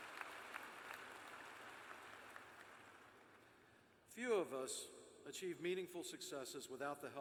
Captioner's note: cheers and applause